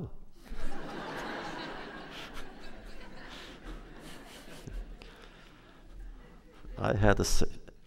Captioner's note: laughter